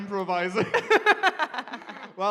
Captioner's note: laughter